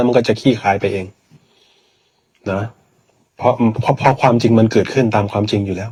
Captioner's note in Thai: เสียงสูดหายใจ